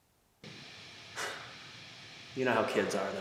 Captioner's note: static hissing; Jacob sighs